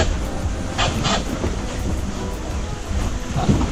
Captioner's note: onboard radio screeching